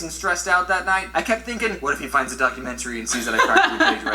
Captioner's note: laughter